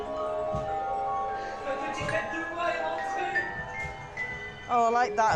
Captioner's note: Gepetto speaks French